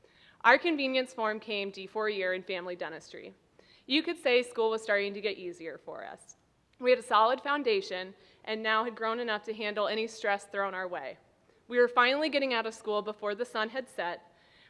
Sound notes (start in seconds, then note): none